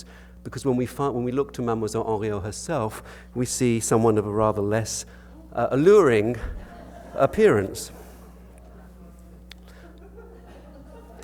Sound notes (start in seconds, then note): 7.7 audience laughter